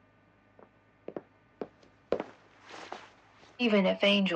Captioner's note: quiet footsteps